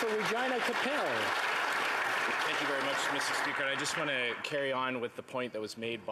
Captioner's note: applause